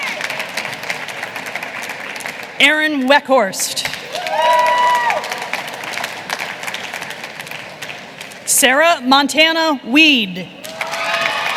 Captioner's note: applause